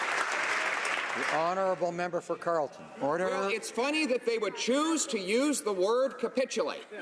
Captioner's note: applause